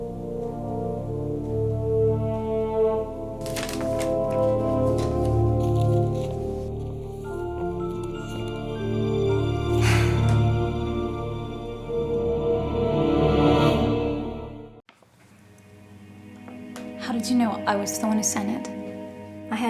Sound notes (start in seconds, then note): 9.8 Maddie sighs; 12.1 dramatic music; 15.5 brooding music